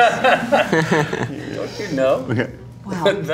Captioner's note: Don laughs